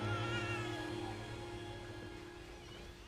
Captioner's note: baby crying